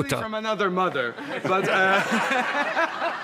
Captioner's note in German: Lachen